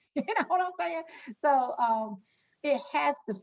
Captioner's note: laughing